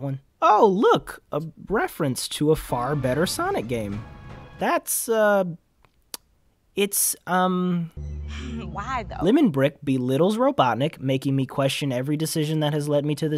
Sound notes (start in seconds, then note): 5.9 lips smack in unimpressed confusion